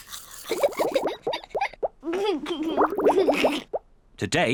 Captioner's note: giggles